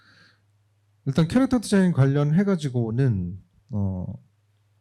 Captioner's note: speaking korean